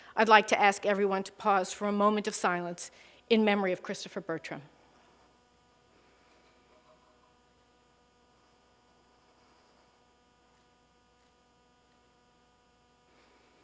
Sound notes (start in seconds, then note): 5.1 moment of silence